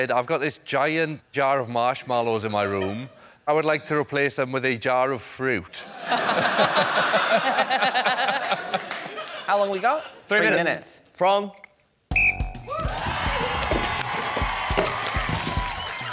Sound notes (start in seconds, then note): 5.8 laughter; 12.1 blows whistle; 12.6 cheering